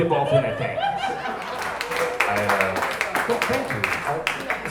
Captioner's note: audience applauds